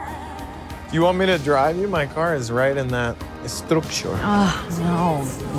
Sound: said with accent

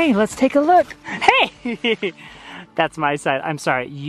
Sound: laughing

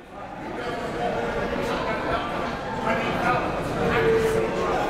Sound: crowd talking

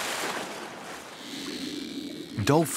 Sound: dolphins clicking

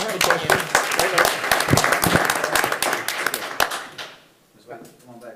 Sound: attendees applauding

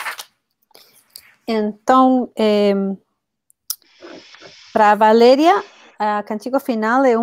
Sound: speaks portuguese

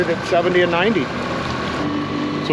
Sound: boat engine running

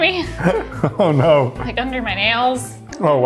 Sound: laughs

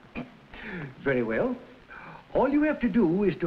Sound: chuckles

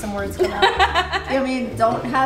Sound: laughing

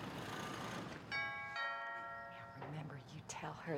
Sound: door bell ringing

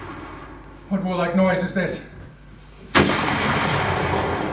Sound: canon fires

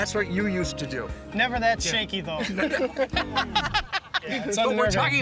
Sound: laughter

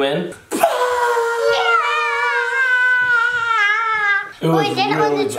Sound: screaming

